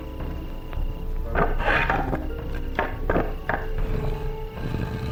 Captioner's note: boards clanking